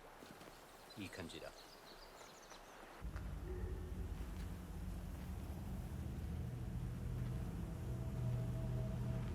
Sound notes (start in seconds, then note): 1.0 man speaks in foreign language